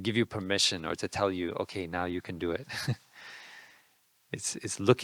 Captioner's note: laughing